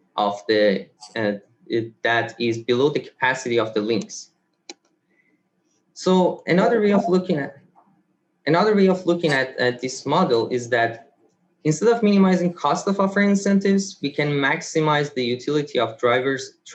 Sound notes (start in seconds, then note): 4.2 mouse clicks